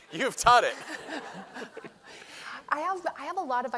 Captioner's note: laughter